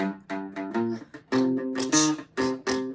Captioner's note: beatboxing